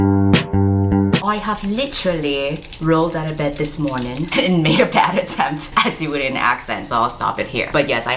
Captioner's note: laughing